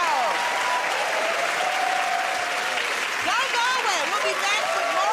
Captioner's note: cheers and applause